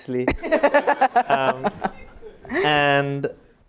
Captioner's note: laughter